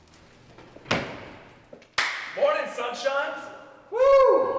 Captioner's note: claps loudly